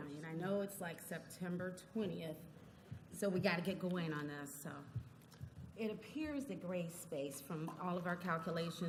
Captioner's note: none